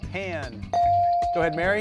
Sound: device dings

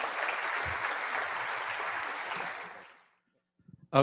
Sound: audience Applause

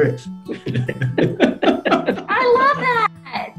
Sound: all laugh

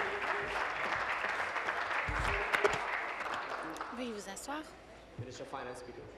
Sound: applause

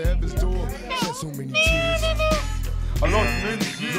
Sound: imitates harmonica whistling; buzzer buzzing

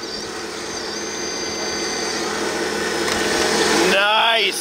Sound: machine engine roaring

